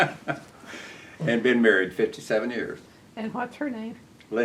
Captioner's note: laughter